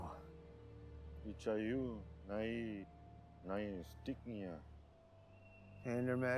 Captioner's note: speaking in foreign language